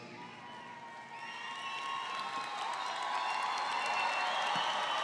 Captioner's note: audience applauds